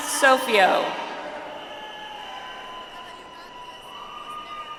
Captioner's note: audience applauds